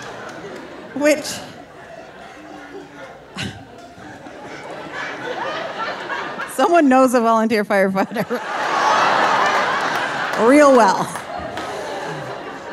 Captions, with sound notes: which (laughs) (audience laughing) someone knows a volunteer (laughing) firefighter real well,